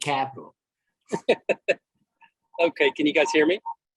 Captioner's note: laughter